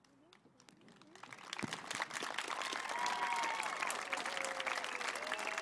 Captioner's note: applause